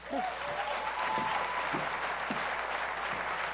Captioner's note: applause